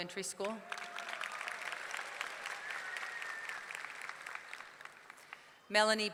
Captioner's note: audience clapping; audience cheering